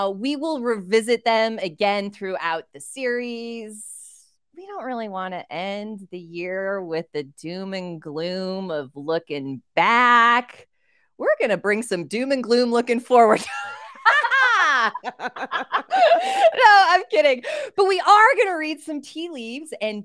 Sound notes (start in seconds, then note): 13.6 laughing